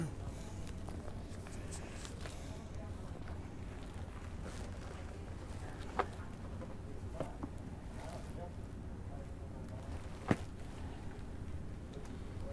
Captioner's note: sounds of books